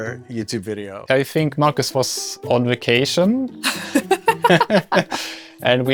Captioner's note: laughs